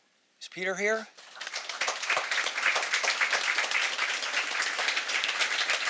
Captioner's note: audience applauding